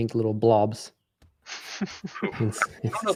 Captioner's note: laughter